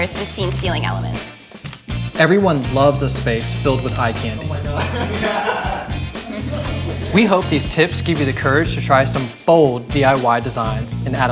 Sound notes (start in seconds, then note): 5.2 people laughing; 6.4 lips smacking